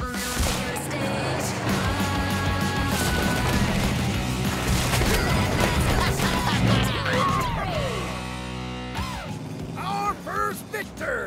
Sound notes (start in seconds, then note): 0.9 tires squealing; 2.1 crunching; 3.4 Mega Wrex laughing; 4.9 Demo Derby laughing; 5.1 cheering and laughing